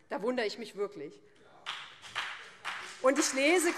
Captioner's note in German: Beifall BÜNDNIS 90/DIE GRÜNEN